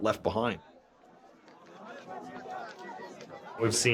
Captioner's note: noisy crowd